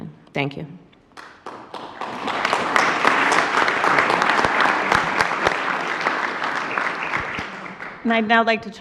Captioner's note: applause